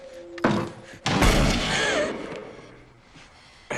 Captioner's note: gunshot, Rebecca gasps